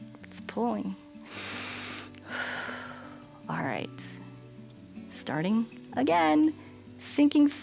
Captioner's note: inhales and exhales